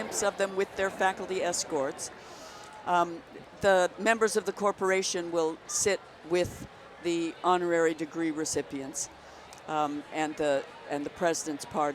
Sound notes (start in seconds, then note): none